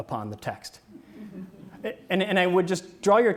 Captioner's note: audience laughs